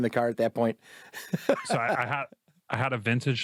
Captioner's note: laughs